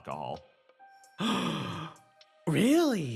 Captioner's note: Etete Gasp!